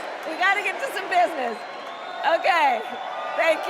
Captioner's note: crowd chanting